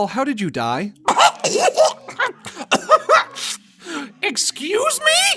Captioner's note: Goofball choking